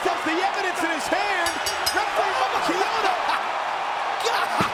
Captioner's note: bell rings